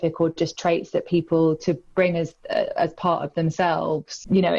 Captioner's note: none